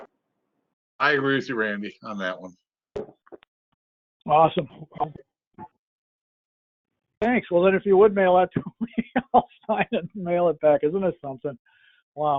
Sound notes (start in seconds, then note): 8.8 laughs